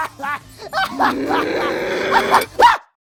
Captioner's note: Kirito's maniacal laugh; Asuna growls; Kirito screams